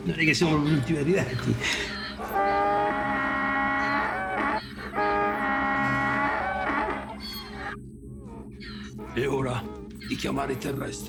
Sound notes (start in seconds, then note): 1.6 Donkey's bray; 5.3 repeated donkey's bray